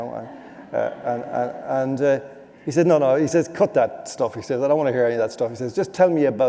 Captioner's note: laughter